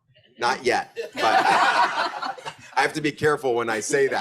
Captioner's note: group laughs